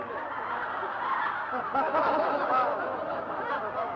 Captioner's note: laughing